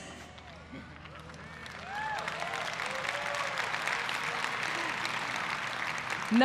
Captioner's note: applause